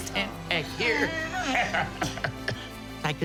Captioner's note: laughs